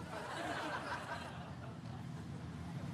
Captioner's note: studio audience laughs